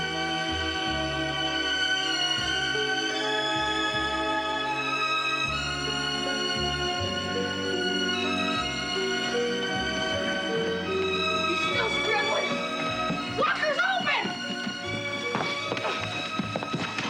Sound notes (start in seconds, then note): 12.6 banging